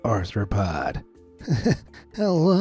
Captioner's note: nervous chuckle